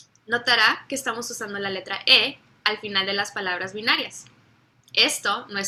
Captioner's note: speaks in foreign language